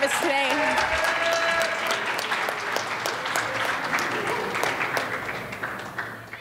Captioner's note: audience applauds and cheers